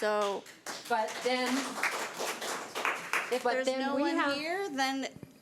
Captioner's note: audience applause